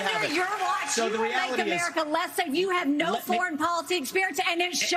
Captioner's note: cheers